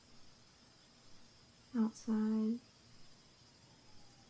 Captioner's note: none